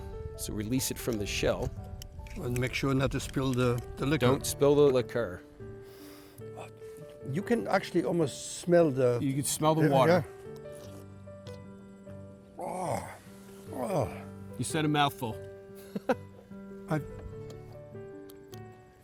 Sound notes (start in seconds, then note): 15.8 laughs